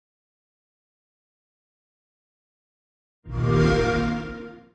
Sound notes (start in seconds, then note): 3.3 xbox sound